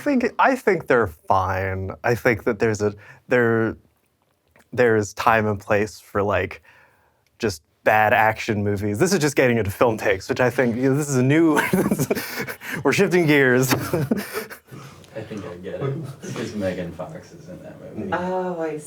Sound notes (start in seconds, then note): 13.5 all chuckling